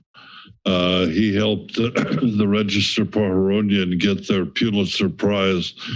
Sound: coughs

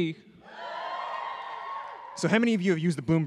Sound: section of audience cheers

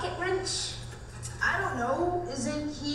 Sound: voiceover

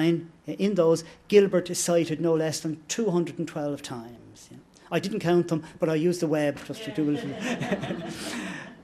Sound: laughter

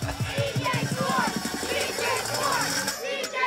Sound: laughs; crowd

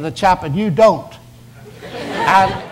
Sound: audience laughs

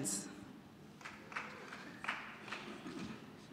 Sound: scattered applause

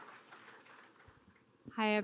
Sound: applause

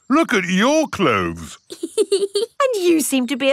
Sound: laughs

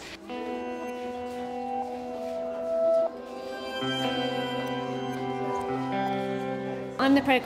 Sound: crowd noise

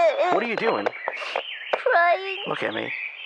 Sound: sniff

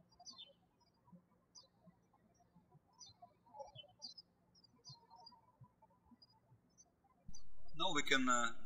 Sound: birds chirping

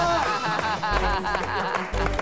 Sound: laughs

